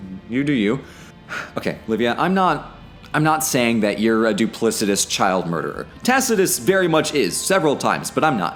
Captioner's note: sighs